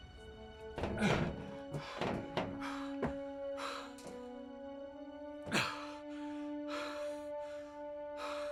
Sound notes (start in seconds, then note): 0.0 dramatic orchestral music; 1.2 labored breathing